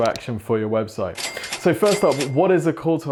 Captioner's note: cash register ringing